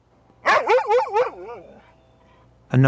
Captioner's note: barking